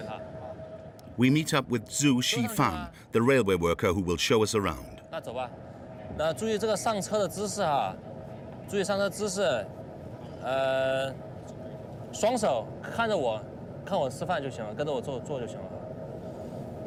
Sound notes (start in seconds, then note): 5.3 speaking foreign language